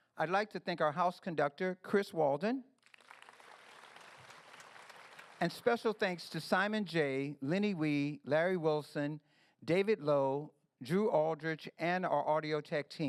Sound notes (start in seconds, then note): 2.8 applause